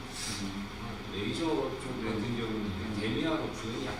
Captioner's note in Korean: 콧방귀